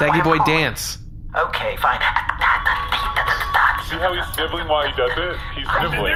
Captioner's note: beatboxing and dancing